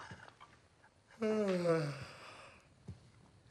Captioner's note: homer yawns